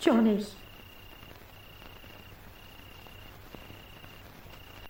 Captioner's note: crickets chirping